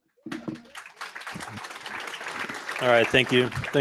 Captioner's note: applause